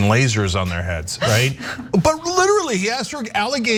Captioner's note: laugh